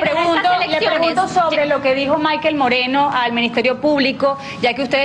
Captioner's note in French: plusieurs voix